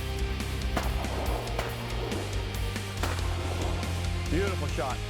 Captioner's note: gun shots